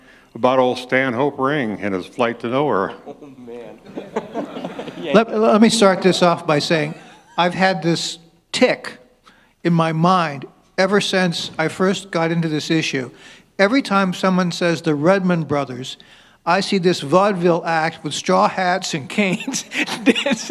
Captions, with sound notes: about old Stanhope Ring and his flight to nowhere? Oh man. *laughter* Let me start this off by saying I've had this tic in my mind ever since I first got into this issue. Every time someone says The Redman Brothers, I see this vaudeville act with straw hats and canes